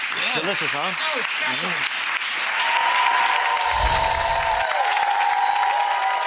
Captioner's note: audience clapping and cheering